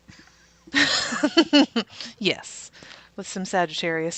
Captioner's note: laughs